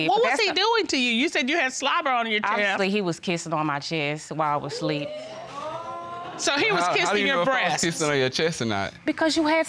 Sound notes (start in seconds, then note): 4.8 audience exclaiming